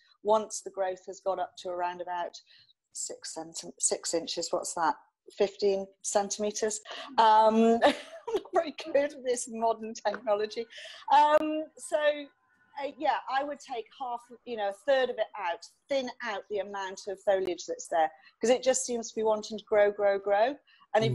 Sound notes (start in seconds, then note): 7.8 laughs